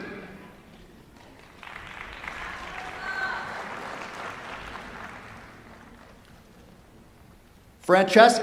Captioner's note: applause